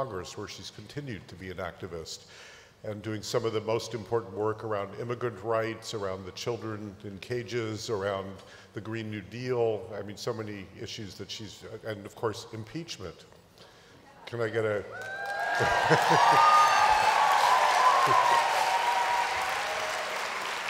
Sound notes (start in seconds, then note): 14.8 cheers